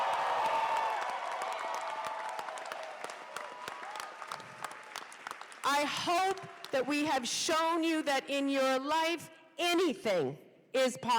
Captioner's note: cheers and applause